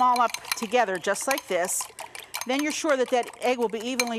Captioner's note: eggs sloshing